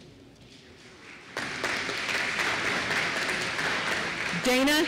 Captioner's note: applause